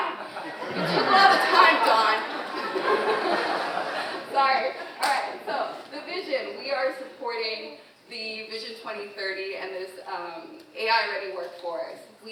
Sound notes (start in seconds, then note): 2.2 audience laughing